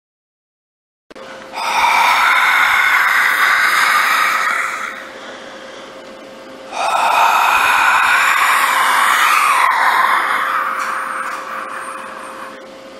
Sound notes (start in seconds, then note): 0.0 sound of a ghost breathing